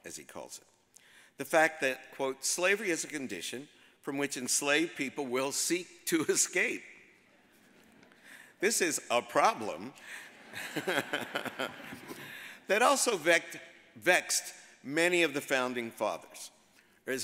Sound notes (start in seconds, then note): 7.8 audience chuckles; 10.3 all laugh